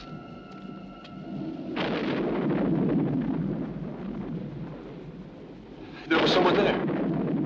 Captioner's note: window blowing; thunder crashing